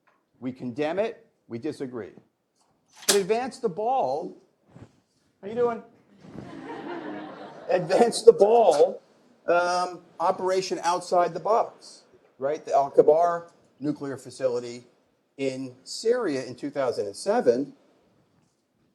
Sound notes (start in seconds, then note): 6.1 laughter; 6.2 laughs